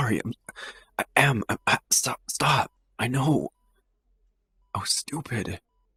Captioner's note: sighs